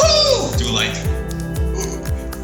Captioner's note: gasps